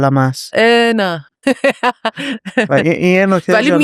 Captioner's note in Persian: خنده